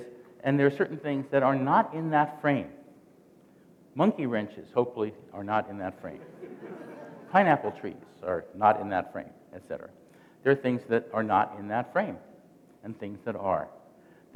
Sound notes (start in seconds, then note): 6.1 chuckling